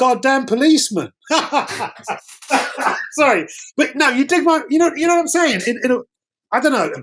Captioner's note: laughter